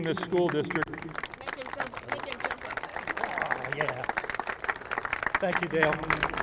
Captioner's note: applause